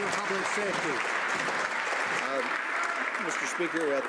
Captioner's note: some Applause